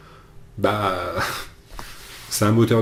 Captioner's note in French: rires